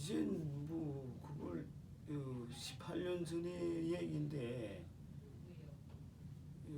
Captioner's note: speaking korean